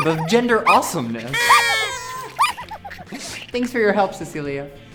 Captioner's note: sound of party horn